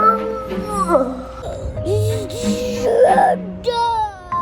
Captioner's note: baby gurgling